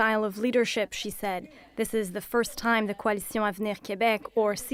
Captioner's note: speaking French